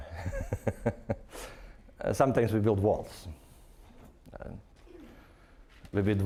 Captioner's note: laughing